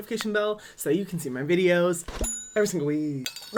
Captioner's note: dings